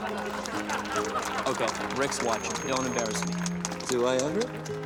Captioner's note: laughter